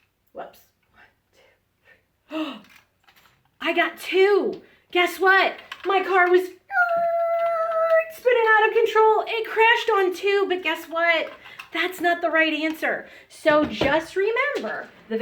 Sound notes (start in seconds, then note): 2.1 gasps; 6.7 squeals